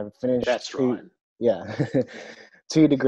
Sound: laughs

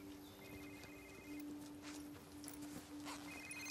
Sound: phone ringing

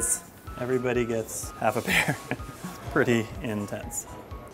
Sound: laughs

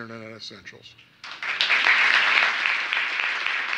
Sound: applause

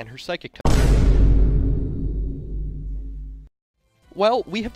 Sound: Vine Boom

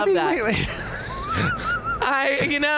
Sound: laughing

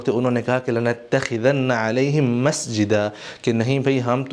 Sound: Arabic

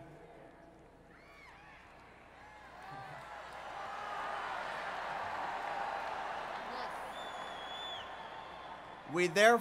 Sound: impatience in crowd

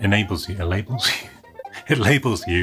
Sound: laughs

